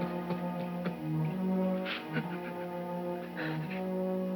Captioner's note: crying